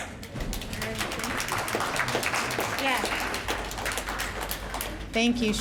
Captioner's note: applause